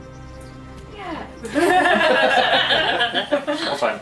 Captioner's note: laughter